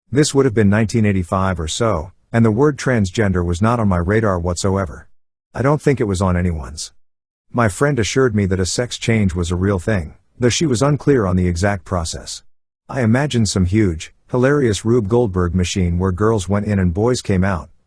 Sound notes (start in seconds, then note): none